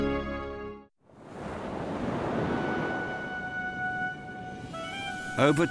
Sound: waves crashing; dramatic music

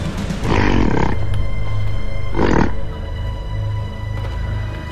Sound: gorilla growling

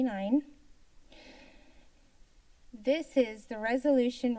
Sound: inahles

